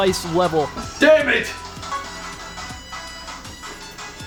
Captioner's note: shouts "DAMMIT!"